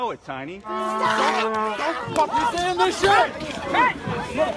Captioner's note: shouting